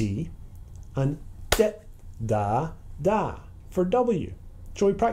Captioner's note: single clap on dit